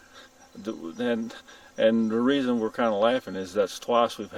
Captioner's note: chuckles